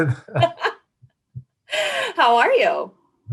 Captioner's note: laughs